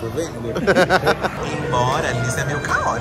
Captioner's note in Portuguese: risos